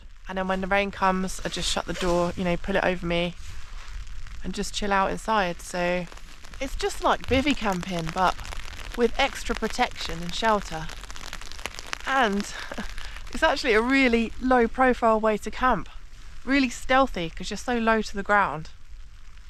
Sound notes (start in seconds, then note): 11.4 rain